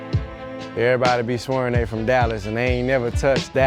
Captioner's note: dink